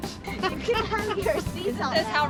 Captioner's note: laughter